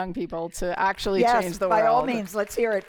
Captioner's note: applause